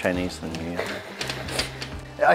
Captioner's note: chuckles